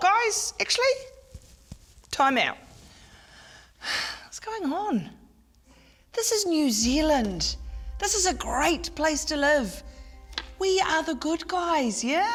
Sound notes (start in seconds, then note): 4.4 sighs